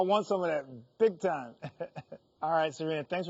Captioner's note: laughing